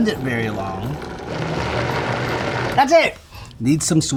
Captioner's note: blender whirring